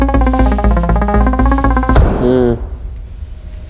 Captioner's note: hammer thuds